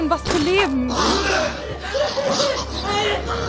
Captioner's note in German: Keuchen, Schmerzensschrei